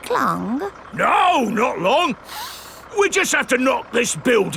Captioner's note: sniffs